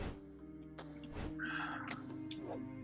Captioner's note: sighs